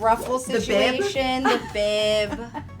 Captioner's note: laughs